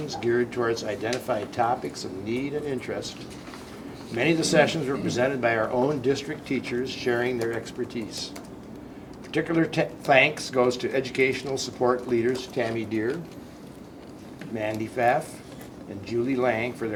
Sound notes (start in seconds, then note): none